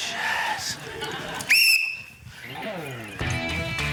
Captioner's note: blows whistle